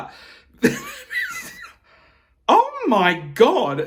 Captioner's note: chuckling